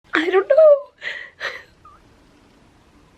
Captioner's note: crying